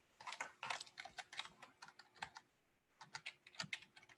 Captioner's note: keyboard tapping